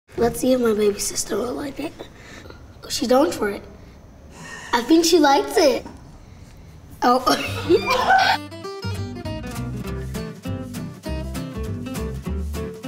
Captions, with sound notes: - Let's see if my baby sister will like it. Oh, she's going for it. I think she likes it. Oh! (laughing) (light music)